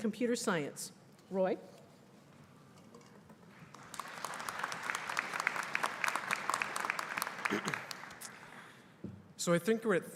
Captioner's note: applause